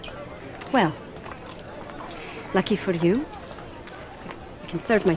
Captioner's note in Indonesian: bunyi koin